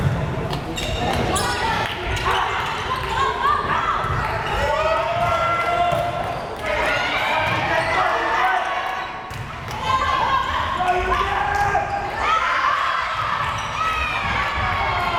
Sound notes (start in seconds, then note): 2.0 players shouting